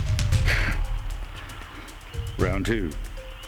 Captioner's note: Shepherd chuckles